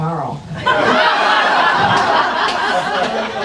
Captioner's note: laughing